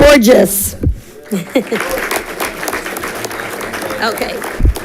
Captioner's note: audience clapping